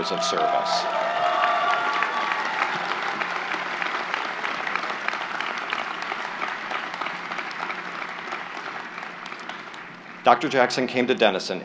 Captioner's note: applause